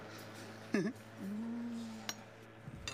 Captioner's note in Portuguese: risada